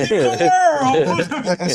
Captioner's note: laughing